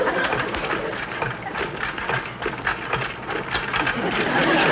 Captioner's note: audience Laughing; apparatus Creaking; audience Laughing